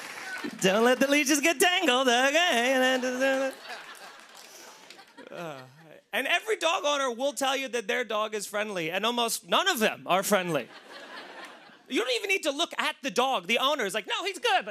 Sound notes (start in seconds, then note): 0.0 laughter and applause; 2.8 laughter; 10.6 laughter